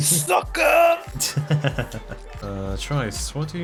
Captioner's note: chortles